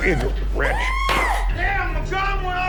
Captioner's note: lady screaming